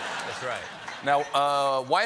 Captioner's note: laughter